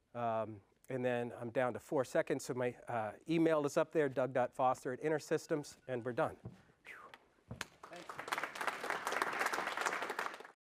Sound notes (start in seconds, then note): 7.6 applause